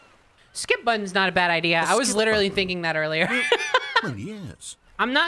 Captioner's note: laughs